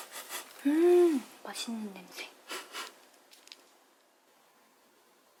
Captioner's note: sniffing